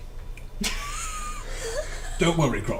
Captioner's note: all laugh